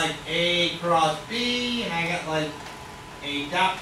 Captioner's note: speaks softly